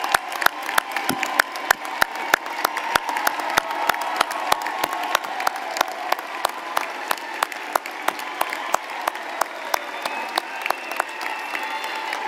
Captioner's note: applause